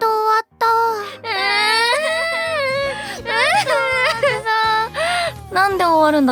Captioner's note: crying